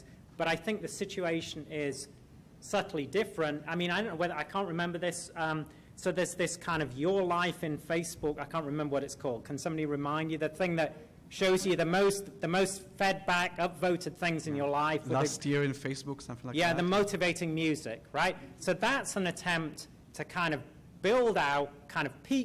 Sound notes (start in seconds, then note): 15.3 voiceover